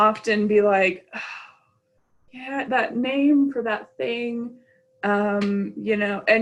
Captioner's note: sighs